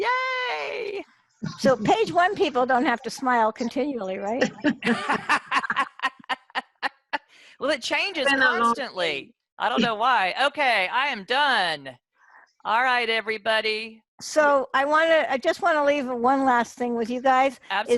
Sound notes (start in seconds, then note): 4.4 laughter